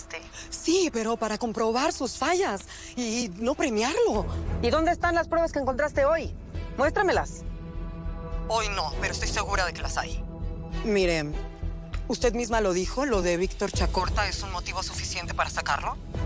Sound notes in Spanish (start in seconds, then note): none